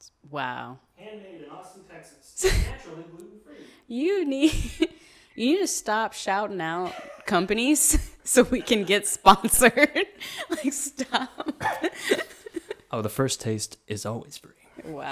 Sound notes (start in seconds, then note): 8.4 laughs